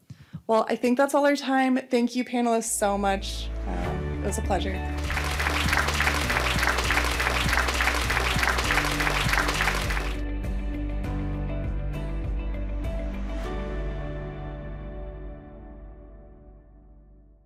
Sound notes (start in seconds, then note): 4.9 applause